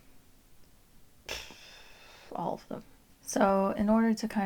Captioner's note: sigh